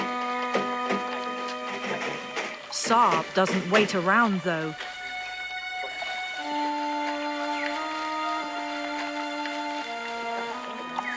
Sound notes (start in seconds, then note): 0.0 dramatic music; 0.0 metal cage clunking; 5.0 birds chirping; 5.0 dramatic music